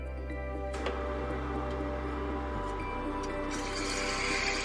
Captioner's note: coffee maker roaring; machine sputtering